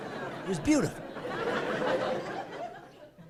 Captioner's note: laughing